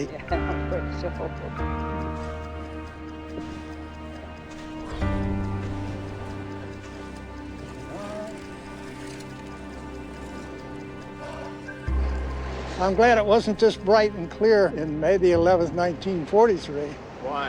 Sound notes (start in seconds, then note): 0.1 laughing; 10.4 heavily breathing